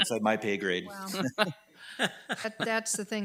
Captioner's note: committee members laugh